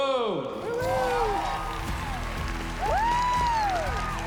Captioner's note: applause and cheering